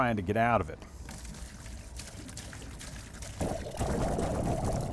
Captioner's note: water splashing